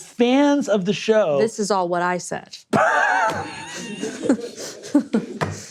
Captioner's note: laughing